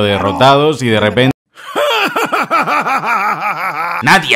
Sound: evil laugh

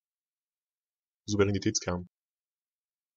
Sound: fast Pronunciation

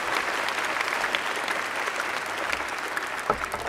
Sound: applause

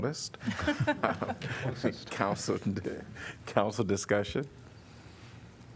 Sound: laughter

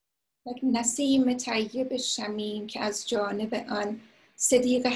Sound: speaking in foreign language

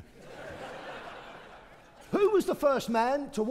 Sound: audience laughing

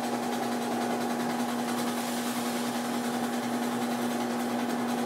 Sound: machine clanking and whirring

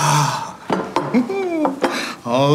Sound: plates clanking

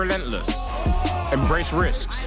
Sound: group groaning

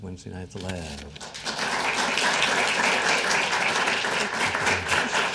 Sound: audience applauding

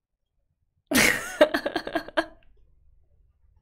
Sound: laughs

